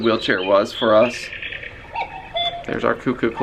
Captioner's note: clock chirping